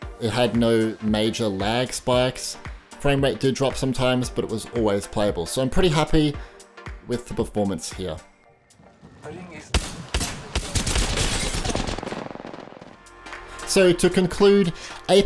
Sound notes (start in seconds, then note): 9.7 guns firing; 10.6 glass shattering; 13.0 upbeat music